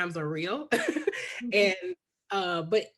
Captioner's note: laughs